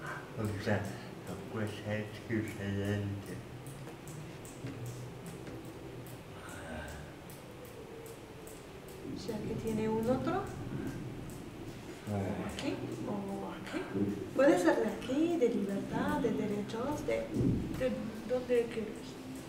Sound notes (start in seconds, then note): 3.6 makes percussive noises with his pen in the background